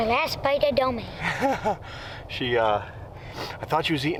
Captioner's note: laughs